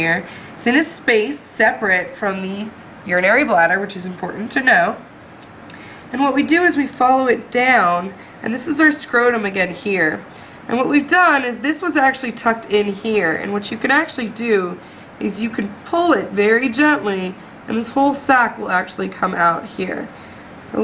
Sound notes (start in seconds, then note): none